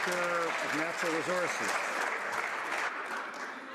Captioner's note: some Applause